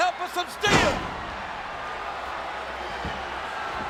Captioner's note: body thuds